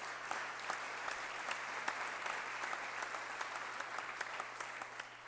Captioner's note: applause